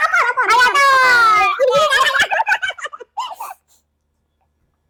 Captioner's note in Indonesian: tertawa